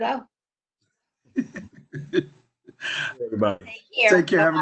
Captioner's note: laughs